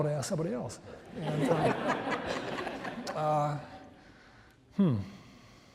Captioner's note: audience laughs